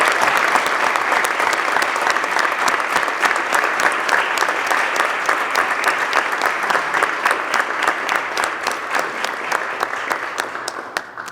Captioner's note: applause